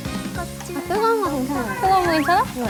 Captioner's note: blowing; slurps it in